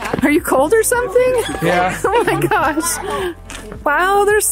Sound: laughs

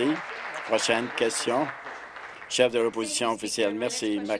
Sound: applause

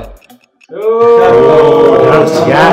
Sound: ohh

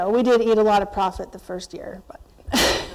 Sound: chuckles

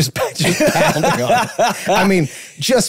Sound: group laughing

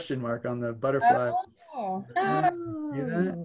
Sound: mumbles

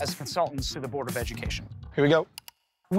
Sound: mouse clicks

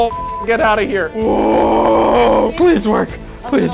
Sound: beep; man grunting

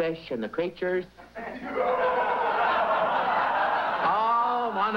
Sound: laughter

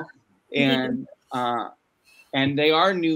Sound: laughs

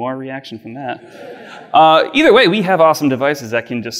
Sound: audience laughs

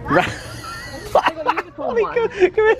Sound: laughing

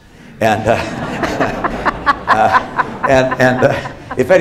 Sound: laughter

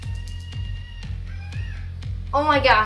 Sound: monkey noise in background

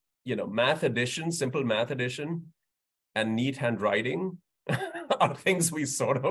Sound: laughs

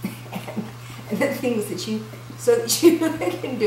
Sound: laughing

